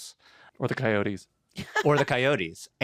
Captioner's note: laughs